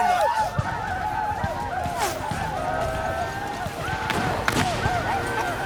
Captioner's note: gunfire, whooping